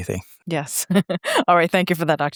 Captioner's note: laughs